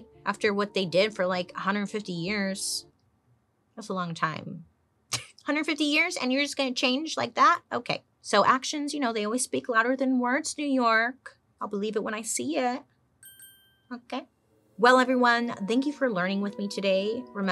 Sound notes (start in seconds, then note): 13.2 bell chimes